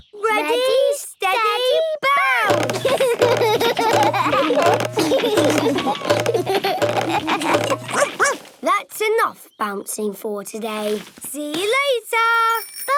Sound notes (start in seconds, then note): 2.6 all laugh; 7.9 barks